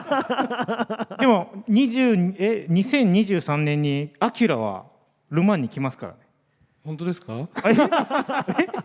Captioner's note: laughs